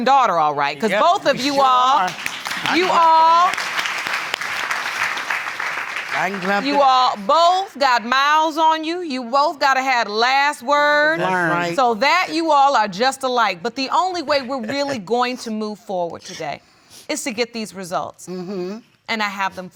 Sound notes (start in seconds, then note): 3.1 applause